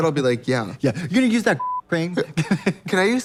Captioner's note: beep